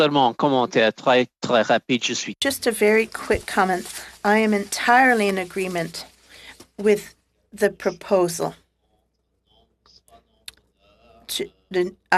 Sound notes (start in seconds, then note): 6.8 speaking French